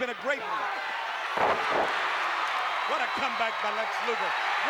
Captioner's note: applause